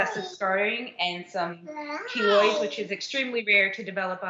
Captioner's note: babbling